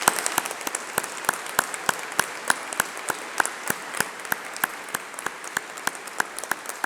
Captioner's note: applause